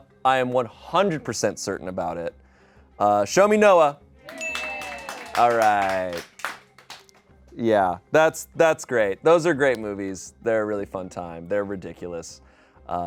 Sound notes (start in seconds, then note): 4.2 people applaud; 4.3 bell dings